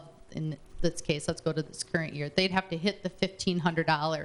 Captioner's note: none